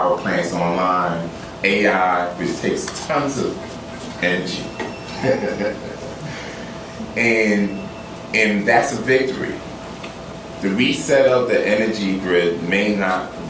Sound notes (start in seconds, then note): 5.0 laughter